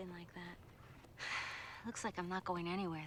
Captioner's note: sighing